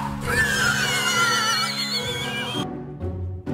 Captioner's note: weird horse noises